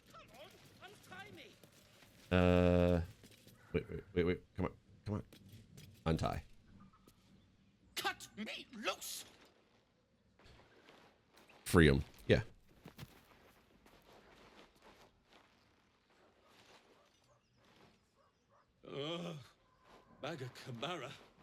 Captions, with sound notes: Come on, untie me! Wait, wait, come on. Untie. Cut me loose! Freedom. Yeah. (Footsteps) Oh, bag of kaburra.